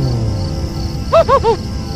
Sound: chuckle

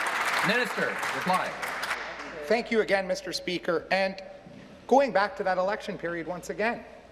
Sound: applause

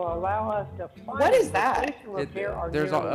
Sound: ~audio distortion~

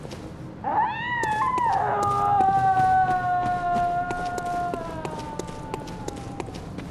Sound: resident screaming

